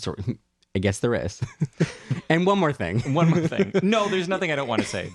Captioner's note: laugh